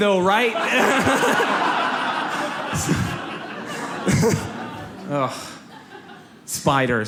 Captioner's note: audience laughs